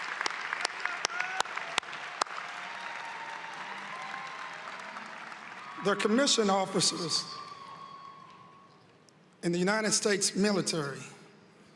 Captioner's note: applause